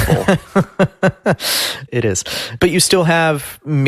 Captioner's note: laughs